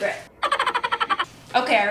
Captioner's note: laughing sound effect